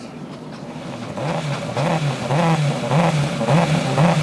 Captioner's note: car revs